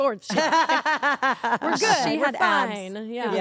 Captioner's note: laugh